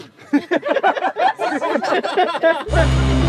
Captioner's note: laughing